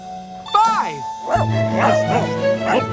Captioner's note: barking